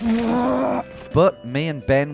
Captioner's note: grunting